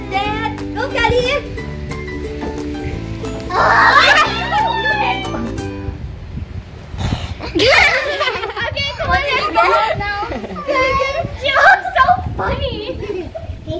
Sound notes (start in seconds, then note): 5.6 happy music stops; 5.6 laughing